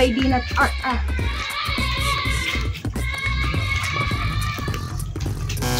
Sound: kids screaming

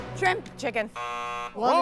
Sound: buzz

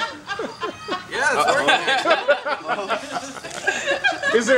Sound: laughs

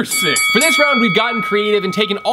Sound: bell dinging

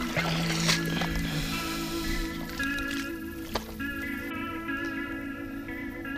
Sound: mud plopping

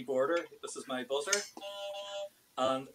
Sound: beep, beep

